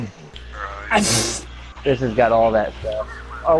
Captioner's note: sneezes